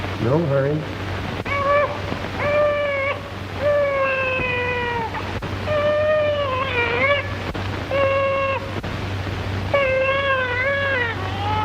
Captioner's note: baby crying